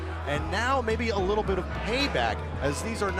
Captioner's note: crowd cheering